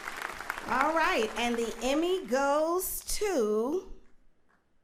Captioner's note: applauding